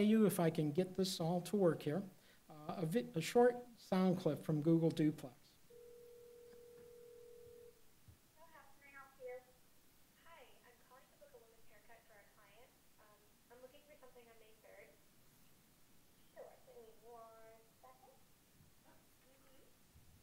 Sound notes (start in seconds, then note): 5.7 dial tone